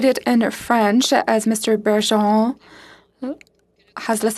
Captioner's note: speaking FRENCH